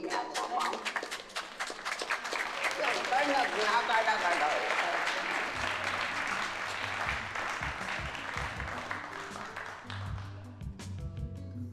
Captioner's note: applause